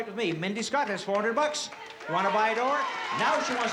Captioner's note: crowd shouting